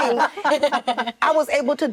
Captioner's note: actresses laughing